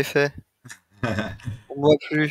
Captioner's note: laughs